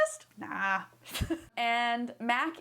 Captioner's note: chuckles